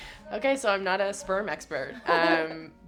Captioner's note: laughing